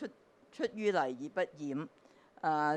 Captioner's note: Cantonese